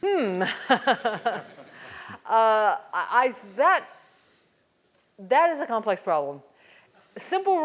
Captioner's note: laugh